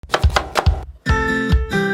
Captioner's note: knife slicing; pleasant music